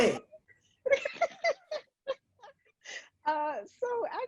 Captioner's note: laughing